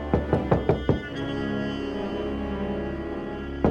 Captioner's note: knocking on door